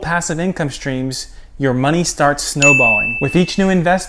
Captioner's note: bell chiming